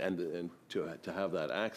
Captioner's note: speaking French